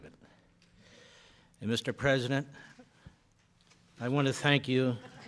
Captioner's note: laughter